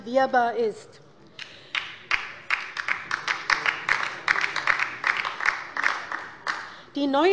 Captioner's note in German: Beifall bei der LINKEN